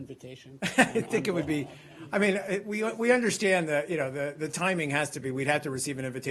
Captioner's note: laughter